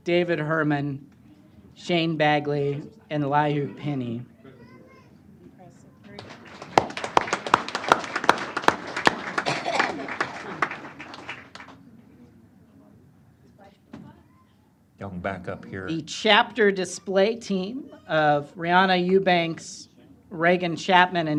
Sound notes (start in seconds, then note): 6.1 applause